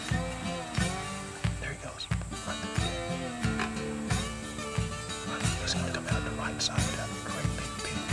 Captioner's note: whispering